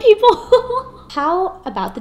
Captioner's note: laughing